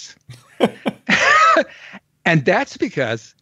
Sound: both laugh

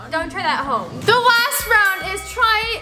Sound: fight bell

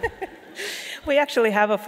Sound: laughing

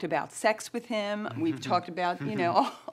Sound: chuckling

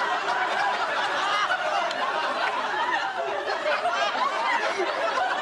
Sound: laughs

